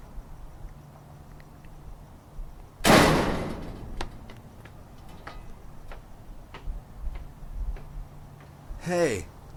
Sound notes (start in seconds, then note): 2.9 crashing sound